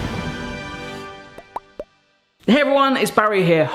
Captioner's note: triumphant orchestral music; bubbles popping